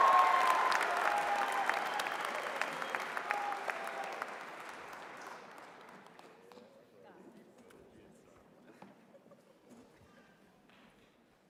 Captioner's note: applause